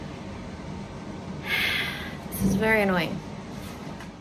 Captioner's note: sighs